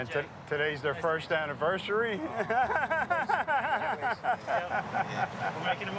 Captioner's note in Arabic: يضحك